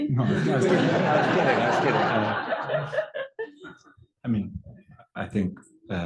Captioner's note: laugh